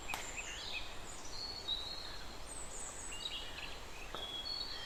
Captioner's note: birds Chirping